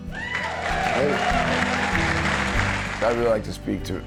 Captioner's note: cheers and applause